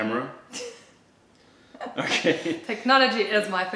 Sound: laughter

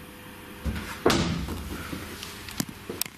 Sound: thud

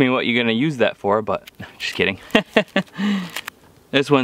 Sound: laughs

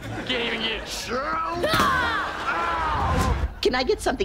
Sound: grunting

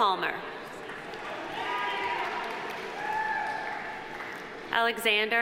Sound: audience applauding; audience cheering

